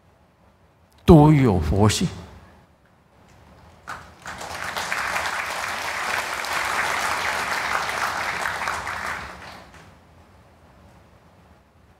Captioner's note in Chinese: 眾鼓掌